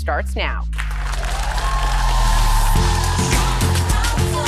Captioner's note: audience applauding; upbeat music